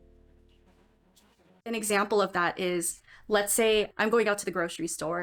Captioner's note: talking